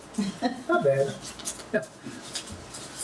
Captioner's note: laughs